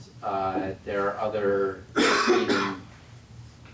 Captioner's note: cough